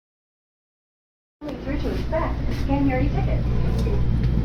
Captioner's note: automated female announcement